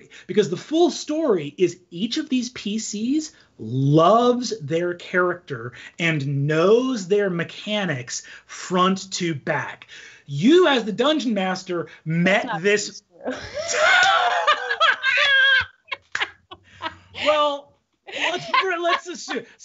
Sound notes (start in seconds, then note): 13.2 both laughing